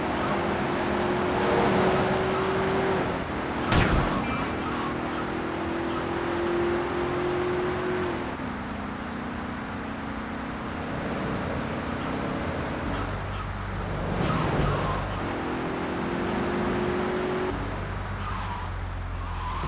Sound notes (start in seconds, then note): 0.2 car engine roaring; 3.7 gun firing